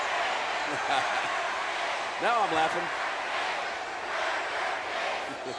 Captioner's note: laughs